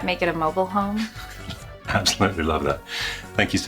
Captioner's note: giggles